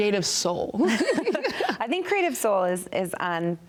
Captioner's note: both chuckle